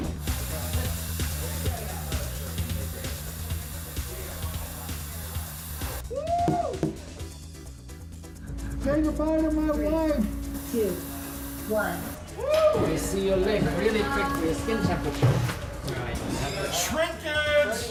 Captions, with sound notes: (upbeat music) Woo! (finger tapping on glass) [automated female] Three, two, one. Woo! All right, temperature. Shrinkage!